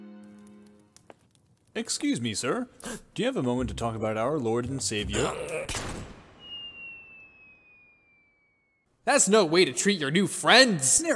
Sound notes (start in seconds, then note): 5.0 grunts